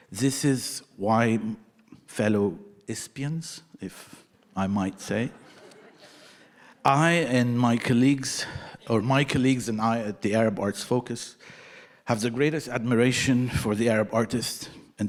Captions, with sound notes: This is why fellow ISPAns, if I might say, (audience laughing) I and my colleagues, or my colleagues and I at the Arab Arts Focus have the greatest admiration for the Arab artists